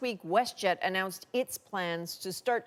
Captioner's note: none